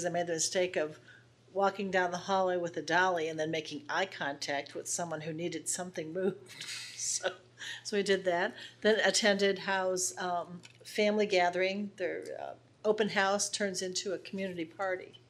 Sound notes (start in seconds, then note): 6.6 laughs